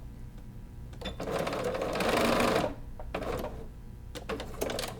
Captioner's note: sewing machine beeping